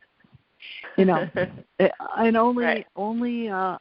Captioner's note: laughs